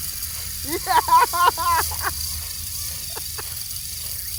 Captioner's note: laughs